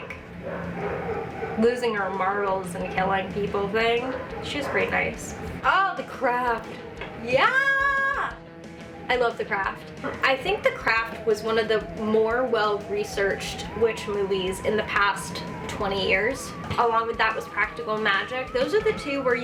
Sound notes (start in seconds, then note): 7.3 yells